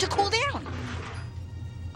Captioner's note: clunk